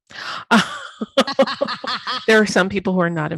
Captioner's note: laughing